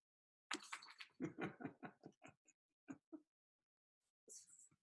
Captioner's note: laughs